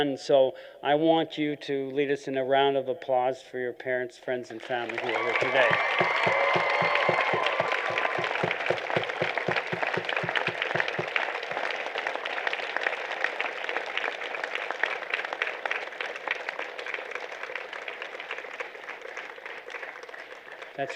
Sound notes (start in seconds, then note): 6.5 applause